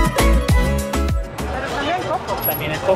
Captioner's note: in Spanish